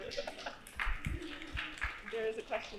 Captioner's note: audience applauding